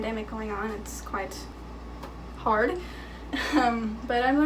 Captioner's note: chuckling